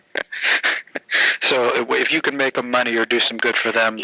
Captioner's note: laughing